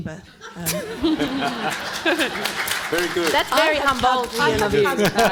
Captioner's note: panel and audience laughing